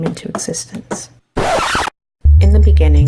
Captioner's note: record scratch